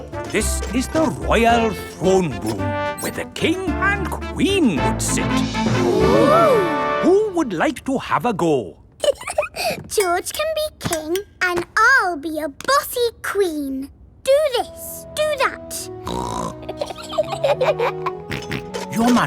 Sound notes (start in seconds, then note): 9.0 giggles; 16.0 snorts; 16.5 both giggle; 18.2 snorts